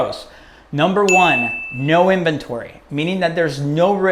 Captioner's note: bell